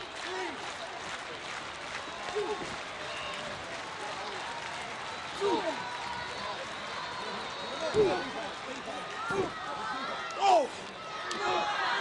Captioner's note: applause